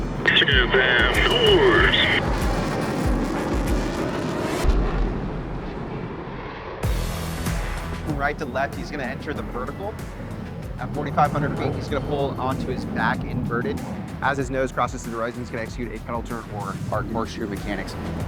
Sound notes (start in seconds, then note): 2.0 aircraft humming; 2.0 upbeat music; 7.2 robust music